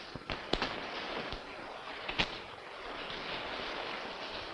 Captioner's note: rain pattering